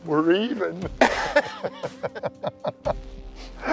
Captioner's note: laughter